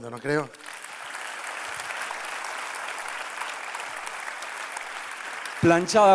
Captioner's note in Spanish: Aplausos